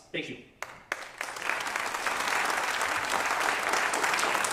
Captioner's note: applause